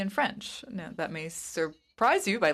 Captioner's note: speaking in French